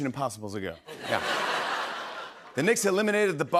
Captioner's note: laughter